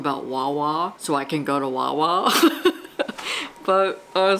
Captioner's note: laughs